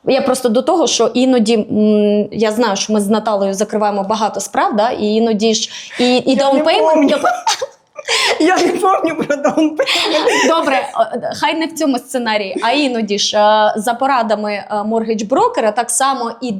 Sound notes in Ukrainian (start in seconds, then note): 7.9 сміх